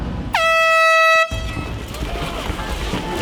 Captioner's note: air horn blares